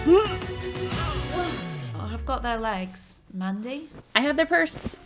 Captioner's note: groan